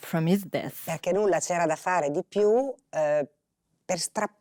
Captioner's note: Italian spoken audio